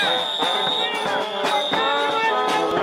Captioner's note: crowd